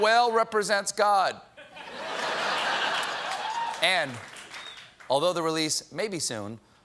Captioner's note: laughter